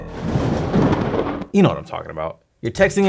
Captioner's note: thunder crackles